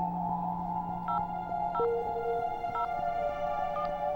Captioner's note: beeping